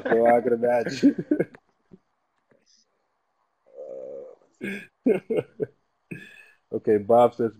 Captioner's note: laugh